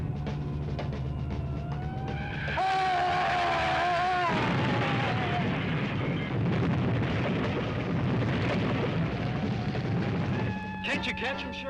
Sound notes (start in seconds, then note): 2.0 tires screeching; 2.3 Otto screams; 3.8 car crashing